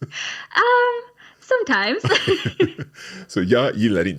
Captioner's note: laughing